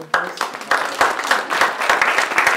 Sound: clapping

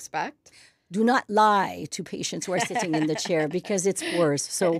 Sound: laughs

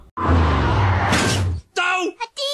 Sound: crash

